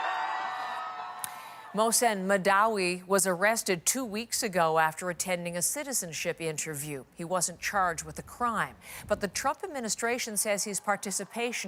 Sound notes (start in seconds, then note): 2.5 cheers and Applause